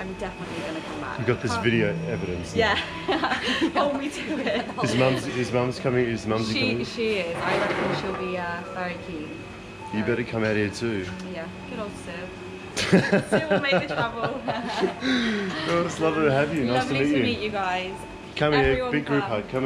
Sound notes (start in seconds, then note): 14.5 laughs